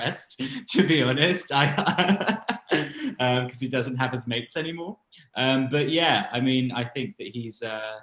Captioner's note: laughs